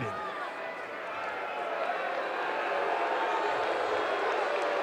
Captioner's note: audience booing